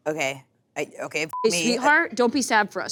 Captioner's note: beep